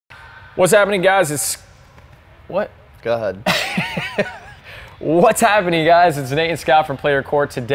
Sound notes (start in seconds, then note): 3.4 laughs